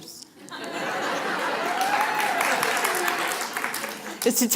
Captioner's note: applause